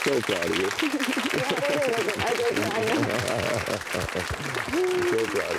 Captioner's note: audience applauding